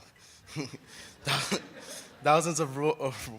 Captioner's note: laughing